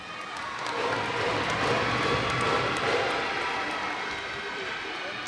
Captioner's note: cheers and applause